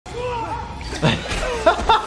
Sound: loud grunting; loud chuckling

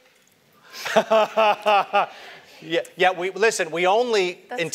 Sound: laugh

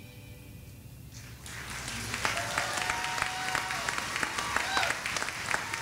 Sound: audience applauding

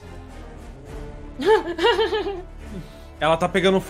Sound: nervous laugh

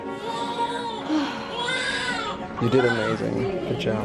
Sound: sighs

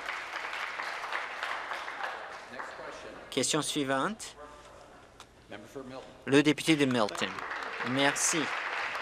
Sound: applause

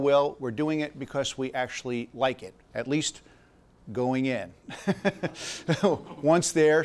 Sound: laughs

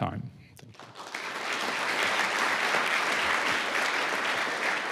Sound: audience applauds

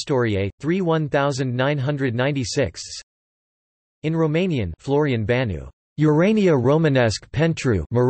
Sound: in Romanian

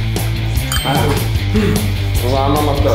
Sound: score dings

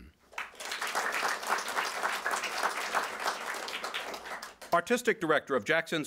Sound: applause

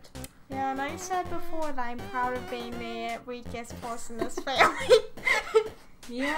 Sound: laughs

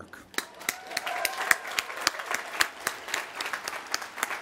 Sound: applause

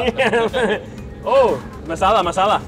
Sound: laughs

